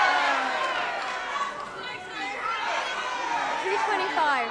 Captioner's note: audience clamoring